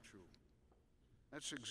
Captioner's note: none